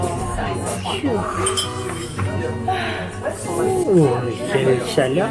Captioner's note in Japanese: 疲れと寒さでため息で会話する夫婦